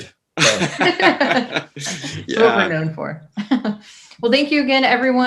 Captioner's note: laughing